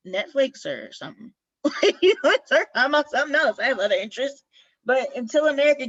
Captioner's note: laughter